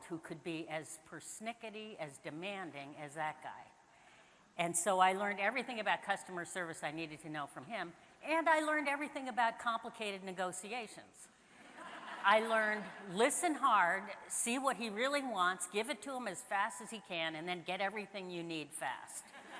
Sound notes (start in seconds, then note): 11.6 audience laughing; 19.4 audience laughs